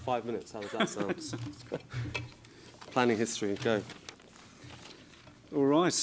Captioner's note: laughs